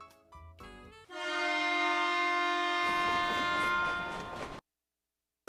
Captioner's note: Sifflet de train; Musique érotique